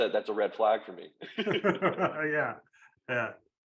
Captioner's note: both laughing